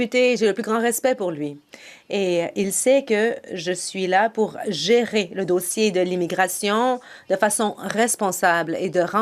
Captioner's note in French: voix de l'interprète